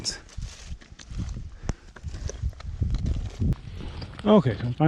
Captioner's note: gravel crunching